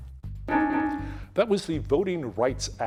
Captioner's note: timer beeping